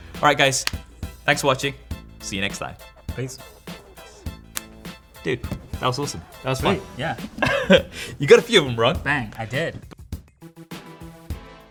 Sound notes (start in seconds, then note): 8.5 laughs